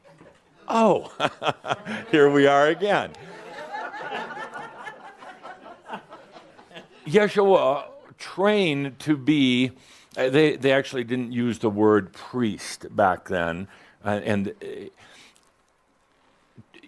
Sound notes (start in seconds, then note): 0.6 Adamus chuckles; 4.5 laughter